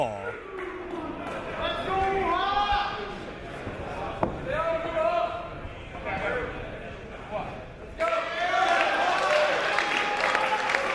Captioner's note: applause